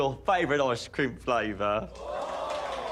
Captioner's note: audience gasps